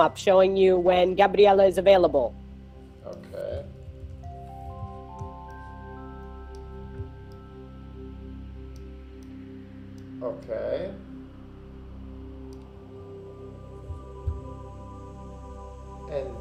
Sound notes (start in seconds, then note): 4.1 gentle music; 7.2 mouse clicking; 13.9 gentle music continues